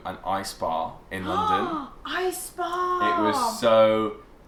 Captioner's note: gasps